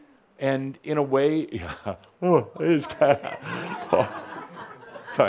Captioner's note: someone yawns